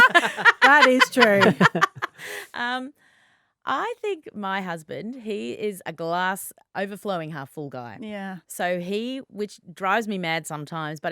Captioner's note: laughing